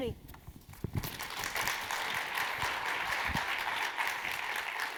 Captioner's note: audience clapping